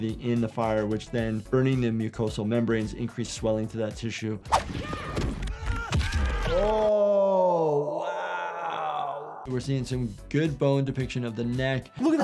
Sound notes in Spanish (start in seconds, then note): 6.4 el personaje gime